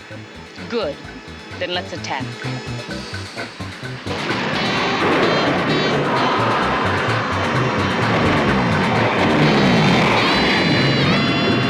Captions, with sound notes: Good, then let's attack. (funky beat music) (zooming)